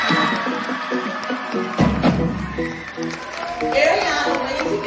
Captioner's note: audience cheering